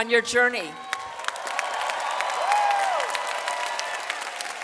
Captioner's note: audience applauds